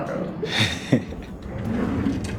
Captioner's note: laughs